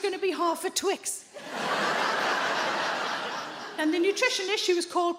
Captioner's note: audience laughing